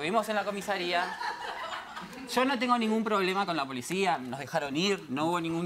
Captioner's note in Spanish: Risas